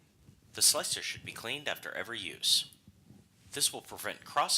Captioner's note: electronic male voice speaking